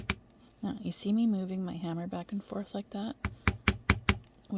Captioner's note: more tapping; more tapping